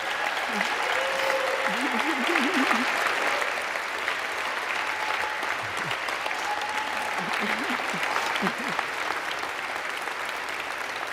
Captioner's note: applause